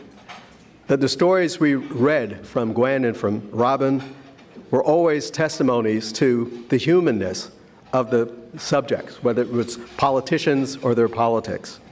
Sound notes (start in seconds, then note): none